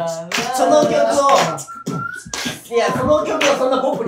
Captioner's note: whistling; beatbox; whistle; claps the beat; beatbox